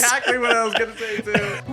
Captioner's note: laughs